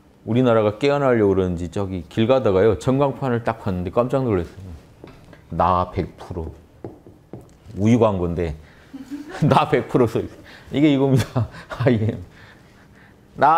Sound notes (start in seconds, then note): 8.9 laughters